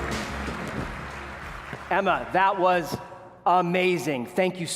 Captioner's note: applause